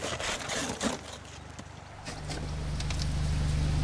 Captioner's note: digging noises